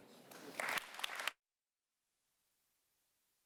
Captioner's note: applause